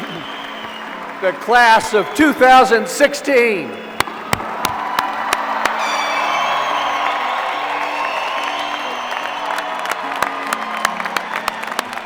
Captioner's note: applause